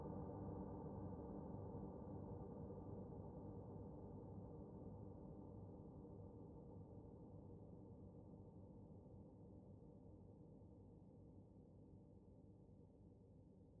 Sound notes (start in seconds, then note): none